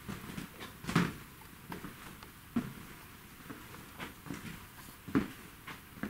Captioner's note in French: Grincements de parquet